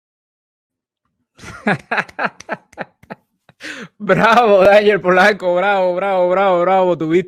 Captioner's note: laughs